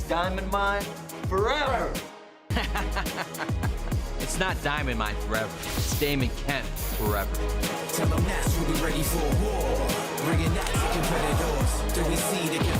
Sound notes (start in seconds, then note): 2.6 laughs